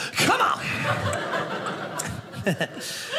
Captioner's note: audience laughing